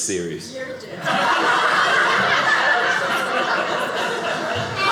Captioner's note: audience laughing